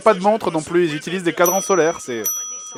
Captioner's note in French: ding